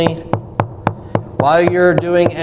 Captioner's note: continuous knocking